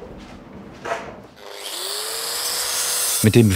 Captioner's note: machine whirring